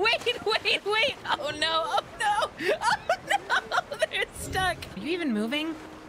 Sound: laughter

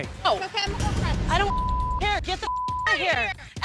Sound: beep

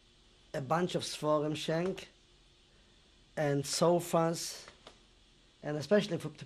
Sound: non-english

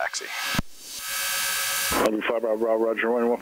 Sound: plane engine buzzing

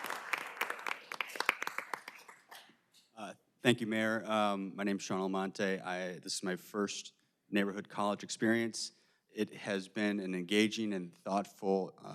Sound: applause

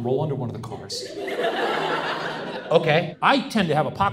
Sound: audience laughs

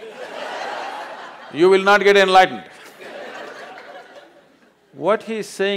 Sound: laughter

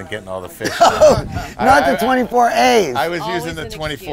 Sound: laughs

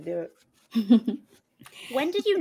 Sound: laughs

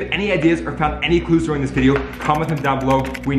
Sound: type write clacking

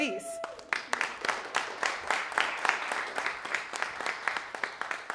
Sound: audience applauding

